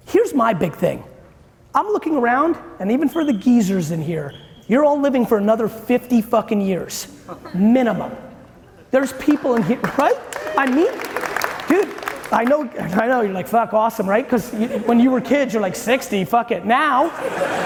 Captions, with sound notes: Here's my big thing, I'm looking around and even for the geezers in here, you're all living for another 50 fucking years. Minimum. There's people in here. (audience applauding) Right? I mean, dude, I know you're like, fuck, awesome. When you were kids you're like 60, fuck it. Now.